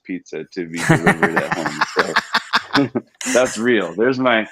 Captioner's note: laughs